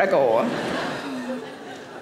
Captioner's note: audience laughing